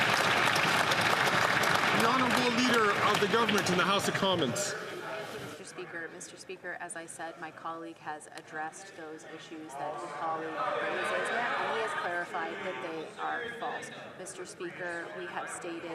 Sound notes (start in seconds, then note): 3.8 some Applause